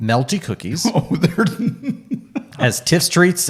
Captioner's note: laughing